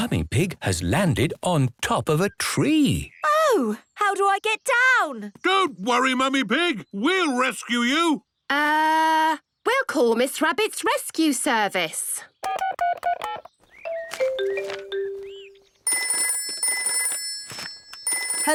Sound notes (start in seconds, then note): 13.8 phone beeping; 15.8 phone ringing